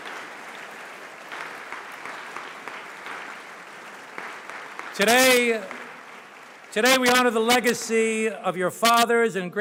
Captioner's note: cheers; applause